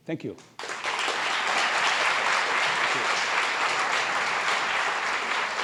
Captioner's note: applause